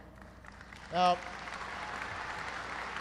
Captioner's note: applause